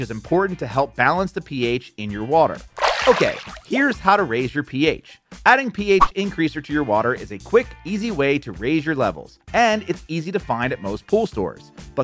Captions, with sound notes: is important to help balance the pH in your water. (water splashing) Okay, here's how to raise your pH. Adding pH Increaser to your water is a quick, easy way to raise your levels, and it's easy to find at most pool stores.